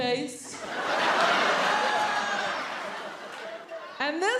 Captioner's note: audience laughing